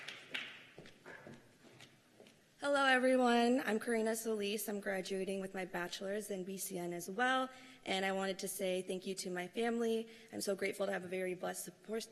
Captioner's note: cheers and applause